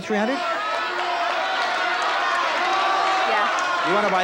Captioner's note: audience yells